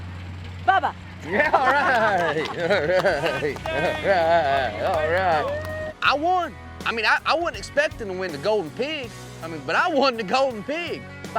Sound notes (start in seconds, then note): 4.8 clapping